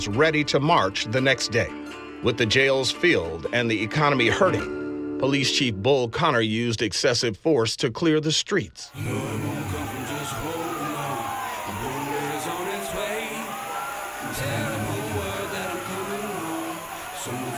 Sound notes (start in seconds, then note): 8.9 fire truck siren ringing